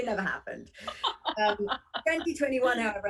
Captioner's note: laughter